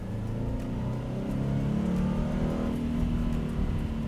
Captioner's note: boxer engine revving up